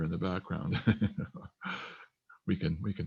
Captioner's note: laughs